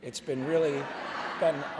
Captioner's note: laughter